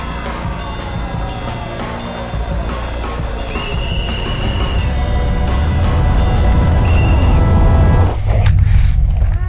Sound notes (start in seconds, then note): 3.8 whistle chirping; 8.2 wincing